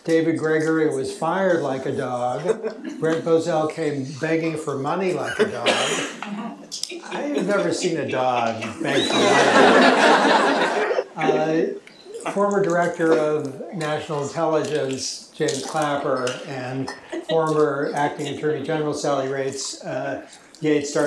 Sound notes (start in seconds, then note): 9.5 chuckling